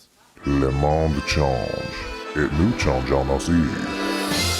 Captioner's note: speaking French